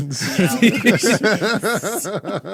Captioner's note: laughing